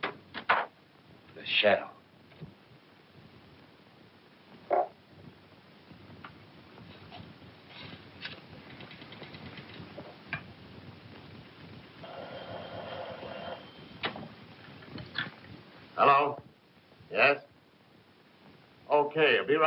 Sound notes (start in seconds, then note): 12.0 phone ringing